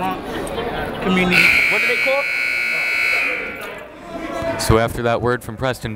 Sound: buzzer

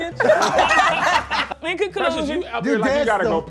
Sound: group laughing

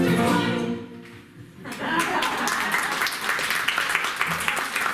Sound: applause

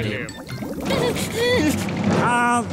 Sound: whimpering

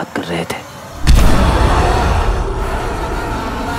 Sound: growling

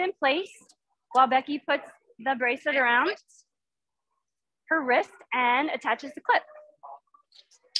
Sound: click

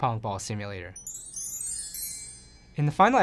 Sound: chimes

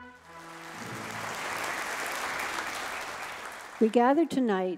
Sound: audience applauding

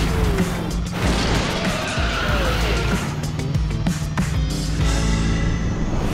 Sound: tires screeching; car crashing

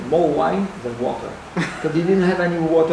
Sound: laugh

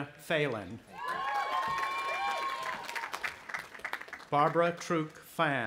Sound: audience applauding and cheering

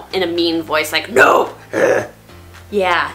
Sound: growl sound effect

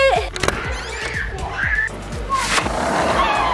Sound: click

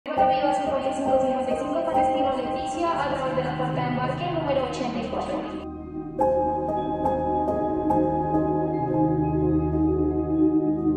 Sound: spanish airport announcement and music

